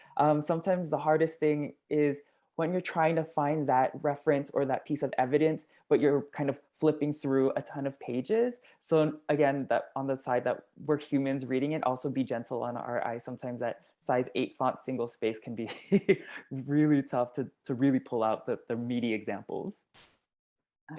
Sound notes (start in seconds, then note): 15.9 laugh